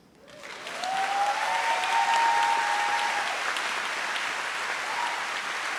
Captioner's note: trustees and audience cheer